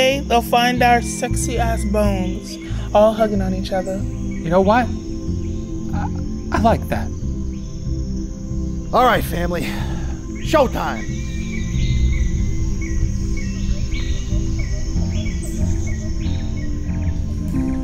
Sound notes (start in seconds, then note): 11.4 birds chirping; 14.1 gentle music